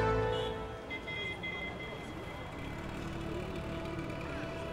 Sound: sound of cars and motor bikes

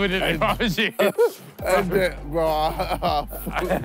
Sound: laughing

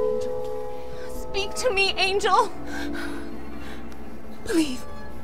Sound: gasps

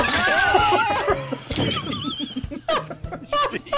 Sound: we're all laughing and is crying a little bit

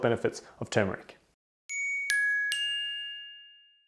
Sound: dinging

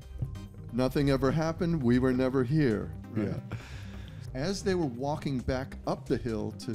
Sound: laughter

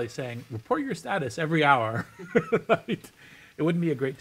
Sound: laughs

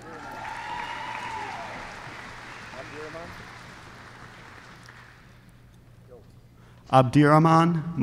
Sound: applause

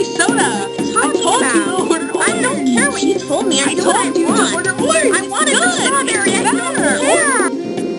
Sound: arguing

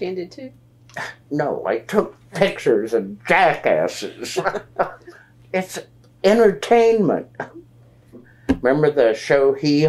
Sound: laughs

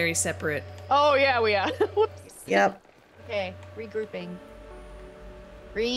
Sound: laugh

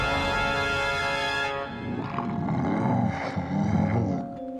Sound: grunting

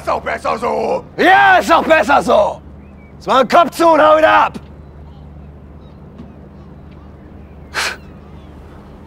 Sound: shouts

